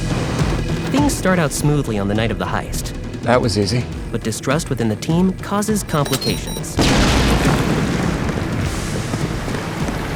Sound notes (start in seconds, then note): 0.1 dramatic music; 6.7 bomb exploding